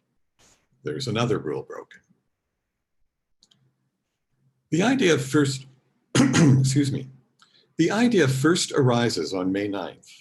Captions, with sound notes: that’s another rule broken. The idea first (coughs) Excuse me. The idea first arises on May 9th